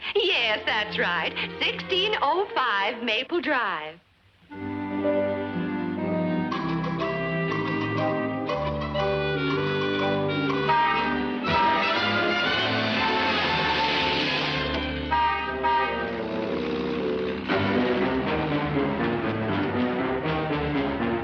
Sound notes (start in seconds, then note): 5.0 gentle music; 10.3 horn honking; 13.3 upbeat music; 15.4 horn honking; 17.4 dramatic marching music